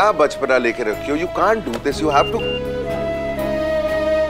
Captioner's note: Phone ringing